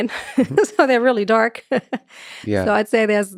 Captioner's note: laughs